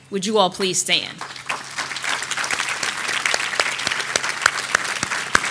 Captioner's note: audience applauding